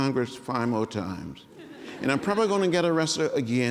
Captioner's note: laughter